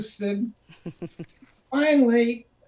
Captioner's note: chuckles